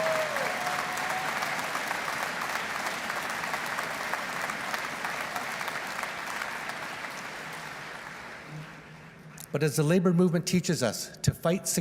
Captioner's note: cheers and Applause